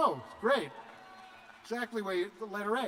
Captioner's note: cheers